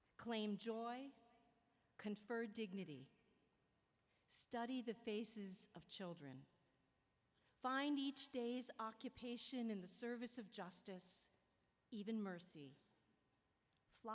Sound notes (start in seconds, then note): none